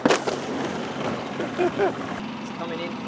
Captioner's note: laughing